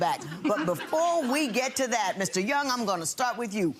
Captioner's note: crowd laughing